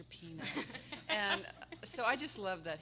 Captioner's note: everyone laughing